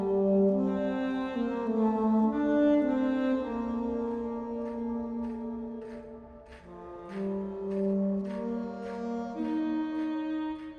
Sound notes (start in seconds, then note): 5.9 distant banging